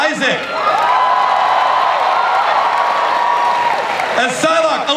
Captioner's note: audience cheers